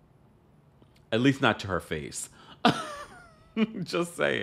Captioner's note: chuckling